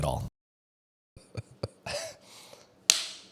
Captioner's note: laughs